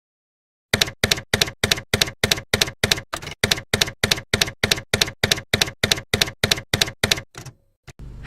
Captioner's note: typewriter keys clacking